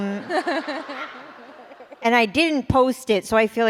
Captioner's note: laughter